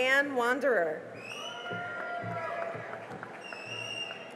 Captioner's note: cheering and applause